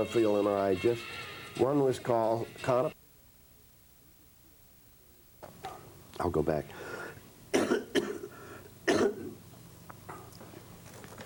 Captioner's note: coughs extensively